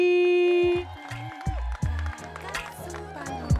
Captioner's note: audience cheering and applauding